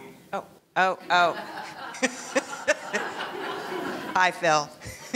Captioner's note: laughing